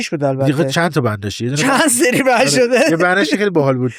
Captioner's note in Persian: خنده